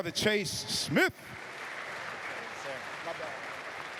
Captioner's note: applause